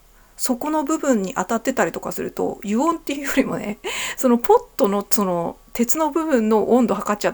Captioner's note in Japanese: 笑い